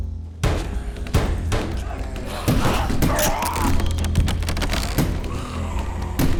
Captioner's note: banging; snarling